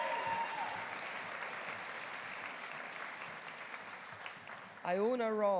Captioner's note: audience cheering; audience applauding